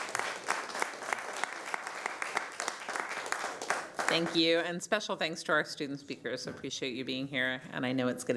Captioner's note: applause